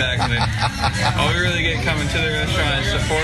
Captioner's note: laugh